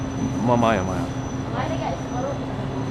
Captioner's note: somali